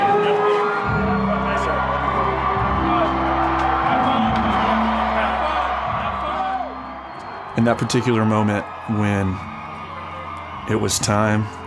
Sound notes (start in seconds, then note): 0.0 crowd cheering